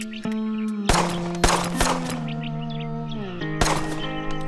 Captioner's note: guns firing